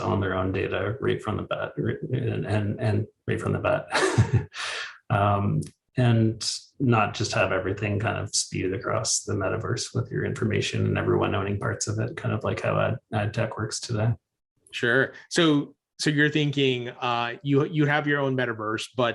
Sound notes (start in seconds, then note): 3.7 chuckles